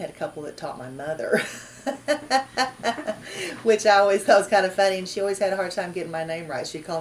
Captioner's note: laughs